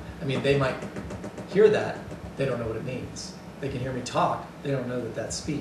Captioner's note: taps desk